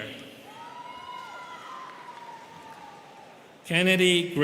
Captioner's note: students cheering